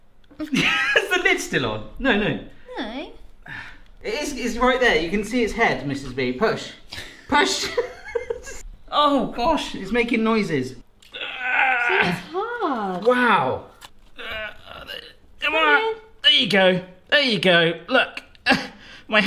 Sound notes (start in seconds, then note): 0.5 laughing; 7.6 laughing; 11.0 groaning; 14.1 groaning